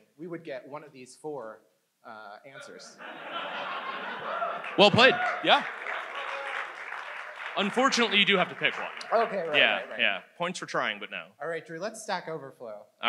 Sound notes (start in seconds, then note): 2.9 audience laughs